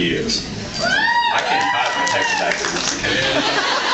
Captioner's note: cheers; laughs